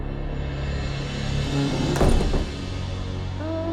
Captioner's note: door slams; woman sings